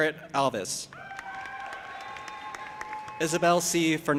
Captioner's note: audience applauding and cheering